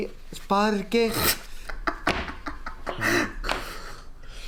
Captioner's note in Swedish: Skrattar